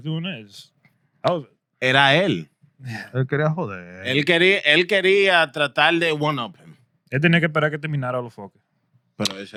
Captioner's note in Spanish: Hablando en idioma extranjero